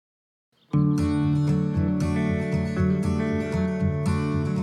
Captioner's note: birds chirping